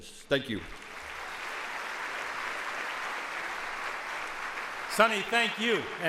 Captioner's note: audience applauds